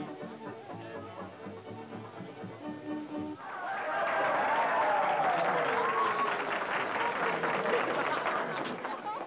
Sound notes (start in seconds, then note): 3.4 people cheering; 3.4 people applauding